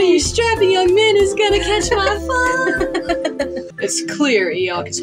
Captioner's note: sensual Music; laugh